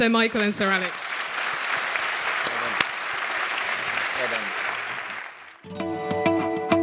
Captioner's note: applause